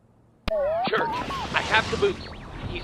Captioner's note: radio tuning